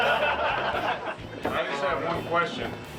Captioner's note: men laughing